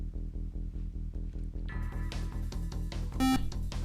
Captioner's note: buzzer